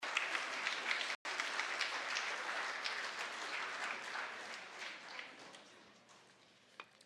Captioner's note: applause